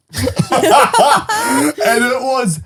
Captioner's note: all laughing